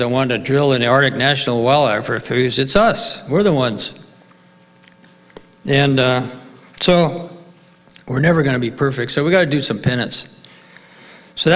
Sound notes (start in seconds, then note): none